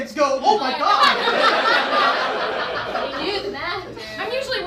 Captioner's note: audience laughs